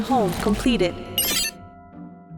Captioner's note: soft beep